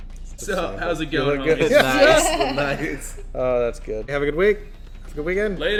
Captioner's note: everyone laughing